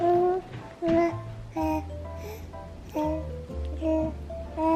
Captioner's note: baby mumbling